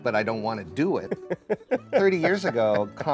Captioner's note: laughing